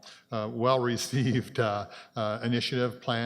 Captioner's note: chuckles